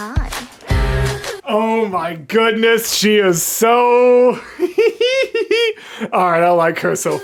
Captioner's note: laughter